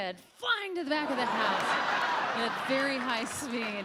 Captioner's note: audience laughing; audience applauds